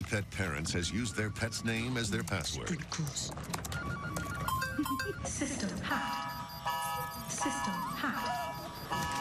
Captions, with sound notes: as their password. [sfx: alarm going off]